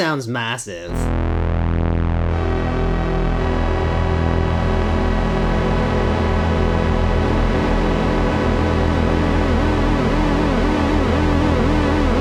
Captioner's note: all drones coming online in a dissonant chorus